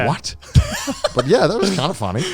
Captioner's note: laughing